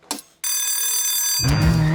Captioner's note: bell rings; car revs